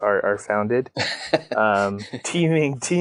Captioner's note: laughing